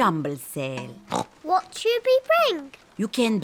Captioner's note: oinks